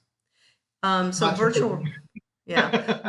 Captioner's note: laugh